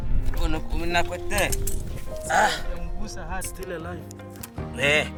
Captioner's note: hunter speaking tribal language